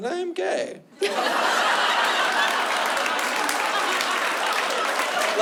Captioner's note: laughter